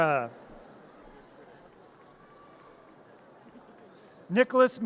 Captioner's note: audience cheers